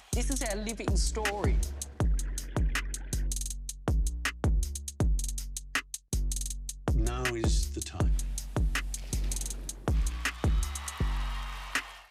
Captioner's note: cheers and Applause